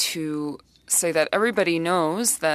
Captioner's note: speaking French